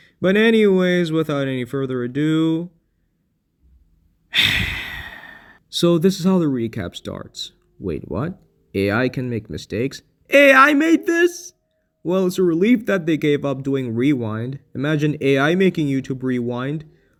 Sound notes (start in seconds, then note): 4.3 sigh